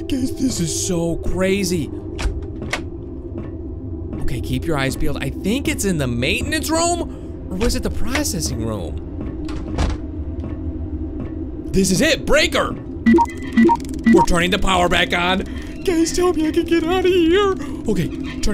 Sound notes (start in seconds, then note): 13.0 electronic beeping